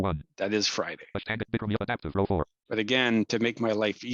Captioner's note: rapid screen reader audio output